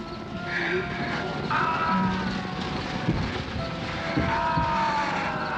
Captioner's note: ghouls screaming